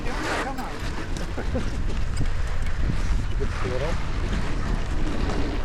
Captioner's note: laughter